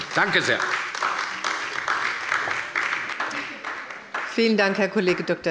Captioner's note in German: Beifall bei der LINKEN und der SPD